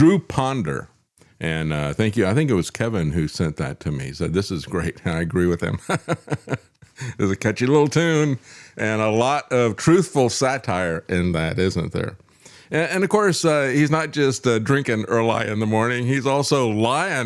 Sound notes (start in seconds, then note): 5.7 laughing